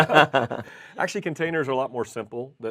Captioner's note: both laugh